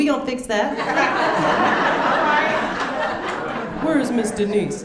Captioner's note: audience laughing